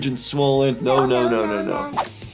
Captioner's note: cat meowing no; aggressive electric guitar music